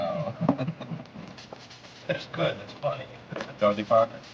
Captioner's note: Mickey laughs